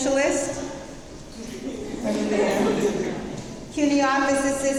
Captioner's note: crowd murmuring